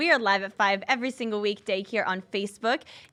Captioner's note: none